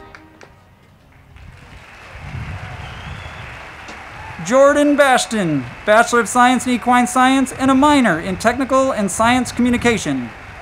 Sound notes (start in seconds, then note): 1.6 crowd clapping; 10.4 crowd clapping and cheering